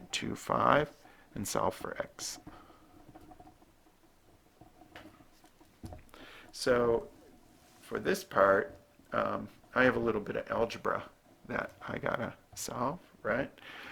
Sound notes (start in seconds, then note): 2.3 writing